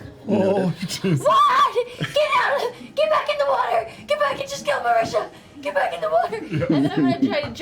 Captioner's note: screams